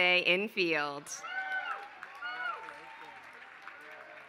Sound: applause

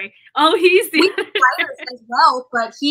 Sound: laughter

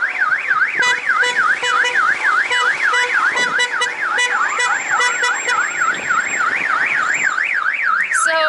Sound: sirens and honking

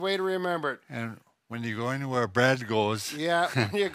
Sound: chuckles

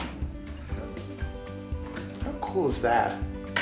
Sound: latch clicking

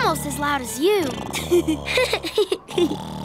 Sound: laughing

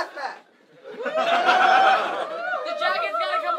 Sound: crowd cheering

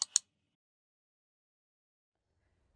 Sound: mouse clicking

